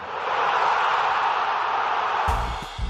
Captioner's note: crowd cheering; funky bass music